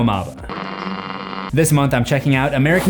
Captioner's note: static